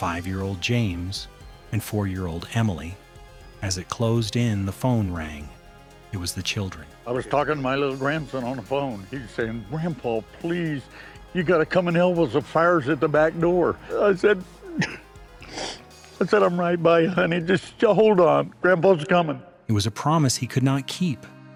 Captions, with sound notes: 5-year-old James and 4-year-old Emily. As it closed in, the phone rang. -It was the children. -I was talking to my little grandson on the phone. He was saying, "Grandpa, please, you gotta come and help us. The fire's at the back door." I said, [crying] I said, "I'm right by you, honey. Just hold on. -Grandpa's coming." -It was a promise he could not keep.